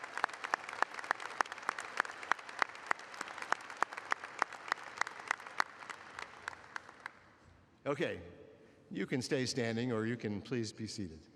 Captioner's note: applause